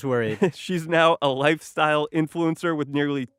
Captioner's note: chuckles